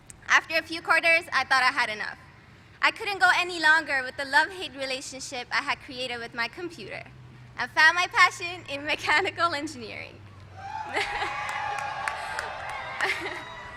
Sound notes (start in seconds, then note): 11.0 applause